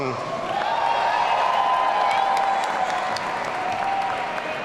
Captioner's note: audience cheering